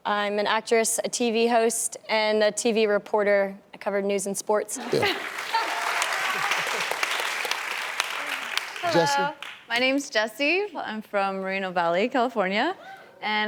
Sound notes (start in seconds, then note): 5.2 clapping